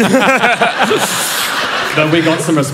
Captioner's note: laughter